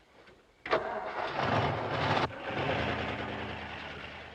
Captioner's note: engine revs